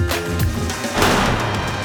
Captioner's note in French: coup de feu